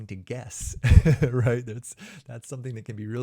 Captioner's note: chuckles